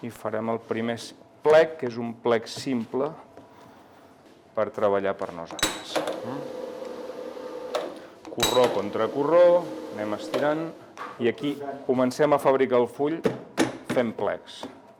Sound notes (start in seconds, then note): 6.1 machine running